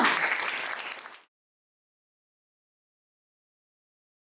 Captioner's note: applause